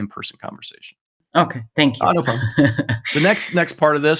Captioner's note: chuckles